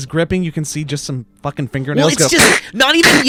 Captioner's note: imitates cracking